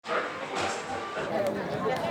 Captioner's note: gaming machines whirring; people chattering